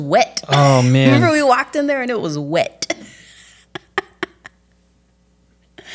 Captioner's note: laughs